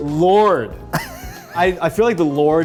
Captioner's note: laughing